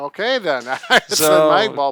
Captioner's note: laughs